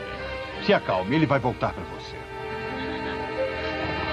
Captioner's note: sighs